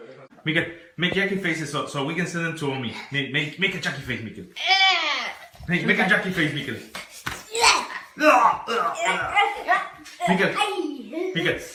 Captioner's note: grunting